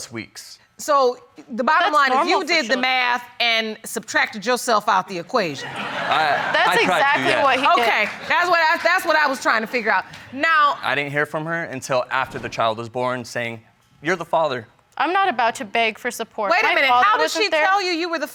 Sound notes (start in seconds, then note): 2.7 audience laughs